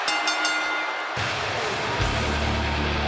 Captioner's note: bell ringing